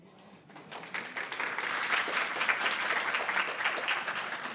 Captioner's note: audience applauding